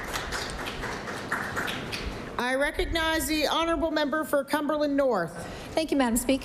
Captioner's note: applause